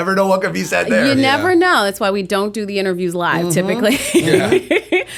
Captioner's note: chuckle